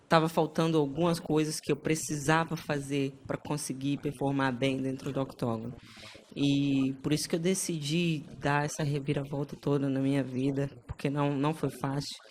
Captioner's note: speaking foreign language